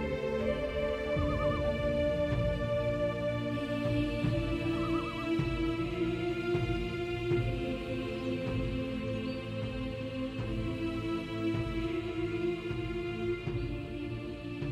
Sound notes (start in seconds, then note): 1.6 bird hooting; 9.0 birds chirping